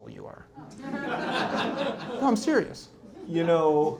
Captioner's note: laughter